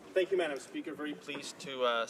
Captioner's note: speaking French